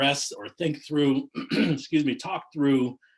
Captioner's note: clears throat